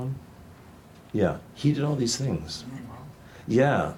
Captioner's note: audience member murmurs